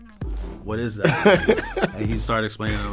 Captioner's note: laughs